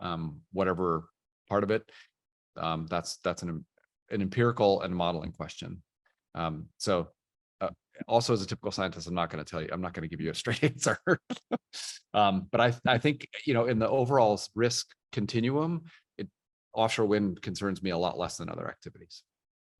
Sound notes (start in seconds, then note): 10.8 laughing